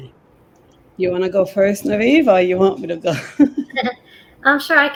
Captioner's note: laughs